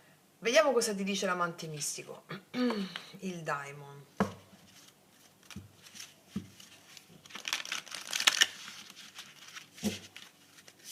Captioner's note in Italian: schiarire la voce